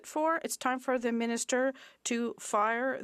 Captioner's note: speaking French